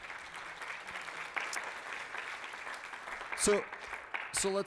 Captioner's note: applause